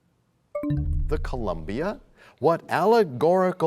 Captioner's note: bell chimes, time expires